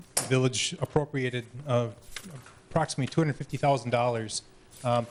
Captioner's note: none